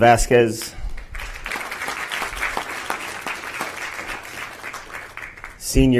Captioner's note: applause